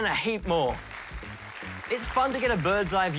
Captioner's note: applause